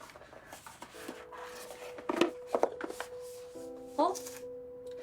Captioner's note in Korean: 선물상자 닫는 소리; 다시 상자 넣는 소리